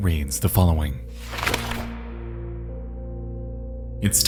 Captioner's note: note flutters